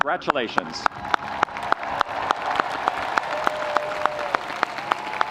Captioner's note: audience applauding